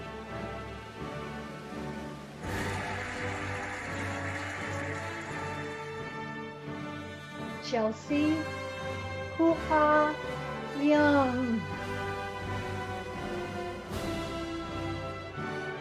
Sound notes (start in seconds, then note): 2.4 cheering and applauding; 13.0 cheerful music